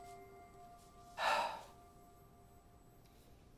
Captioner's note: exhales